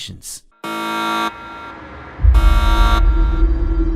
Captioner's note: alarming sound